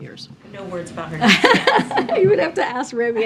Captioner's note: laughs